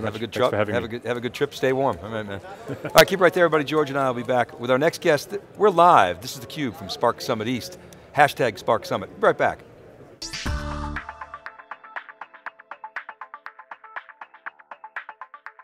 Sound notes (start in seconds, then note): 2.6 laughs; 12.7 upbeat music